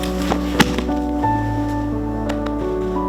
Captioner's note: thudding